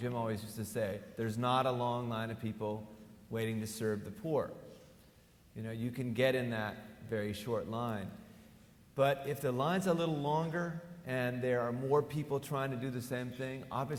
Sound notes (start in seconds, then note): none